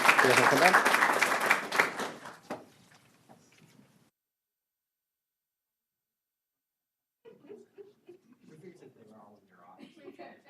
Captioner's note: applause